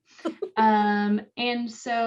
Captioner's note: laughing